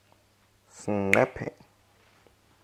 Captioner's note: snap